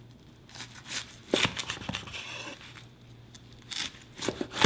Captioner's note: knife slicing